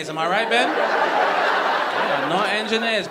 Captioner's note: audience laughing